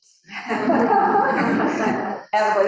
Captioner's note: all chuckle